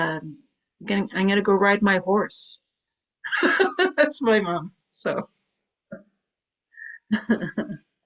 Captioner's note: laughs